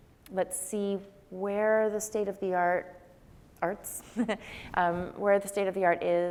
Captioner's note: laughs